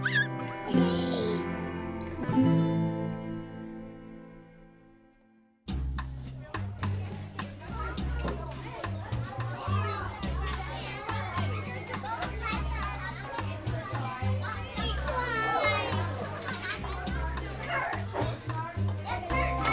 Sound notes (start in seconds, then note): 0.0 baby laughs; 6.5 upbeat music; 8.8 kids chattering